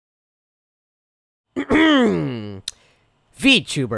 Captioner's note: ahem